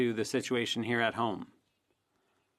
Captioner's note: speaking French